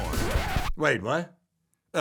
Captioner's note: record scratch